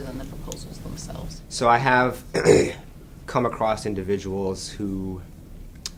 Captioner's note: clears his throat